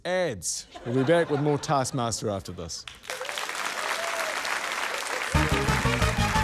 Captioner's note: cheering, applause; upbeat fanfare